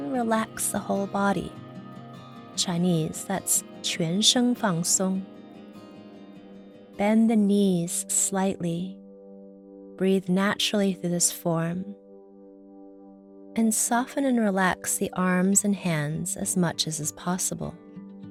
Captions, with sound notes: Relax the whole body. In Chinese, that's (speaks in foreign language) Bend the knees slightly. Breathe naturally through this form and soften and relax the arms and hands as much as possible.